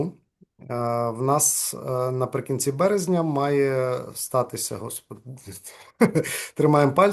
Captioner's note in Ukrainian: сміється